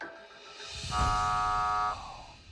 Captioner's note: buzzer sounds